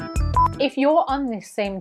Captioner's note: signal beeps